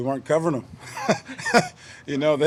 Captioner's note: laughter